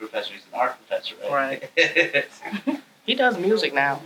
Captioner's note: interviewer chuckles